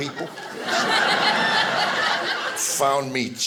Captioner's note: audience laughing